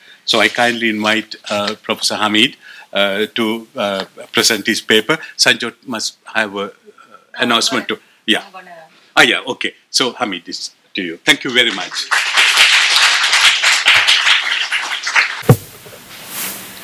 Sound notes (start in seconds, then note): 11.5 applause